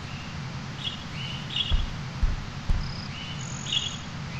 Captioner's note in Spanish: Sonidos de fondo: agua callendo, pajaros hablando